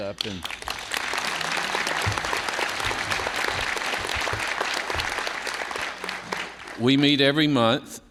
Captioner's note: applause